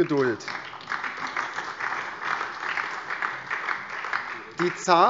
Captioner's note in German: Beifall